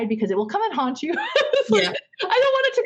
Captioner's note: laughing